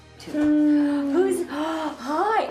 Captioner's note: moaning